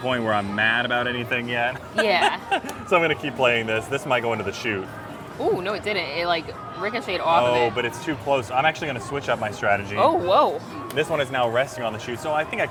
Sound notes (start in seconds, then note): 1.8 laughs